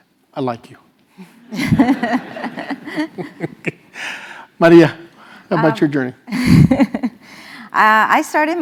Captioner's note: laugh